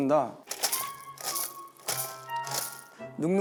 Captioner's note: rattle clack